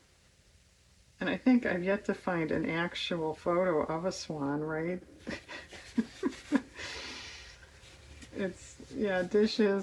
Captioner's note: laughs